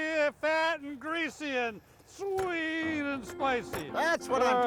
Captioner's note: hand thudding